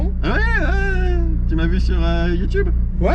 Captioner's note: chuckling